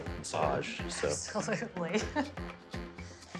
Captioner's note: chuckling